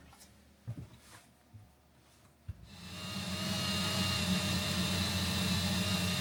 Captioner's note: drill whirring